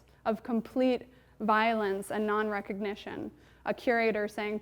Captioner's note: none